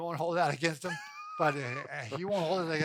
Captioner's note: laughing